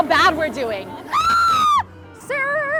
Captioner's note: screams